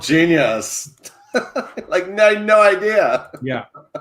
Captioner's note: chuckles